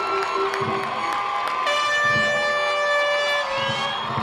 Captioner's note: cheers and applause